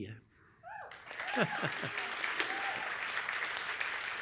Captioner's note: applause